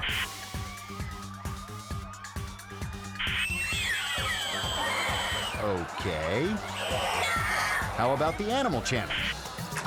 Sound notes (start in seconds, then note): 0.1 TV static; 0.9 upbeat music; 2.5 girls screaming; 2.5 upbeat music